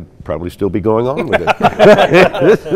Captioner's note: laughing